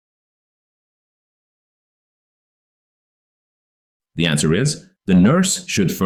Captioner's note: 5-Second Pause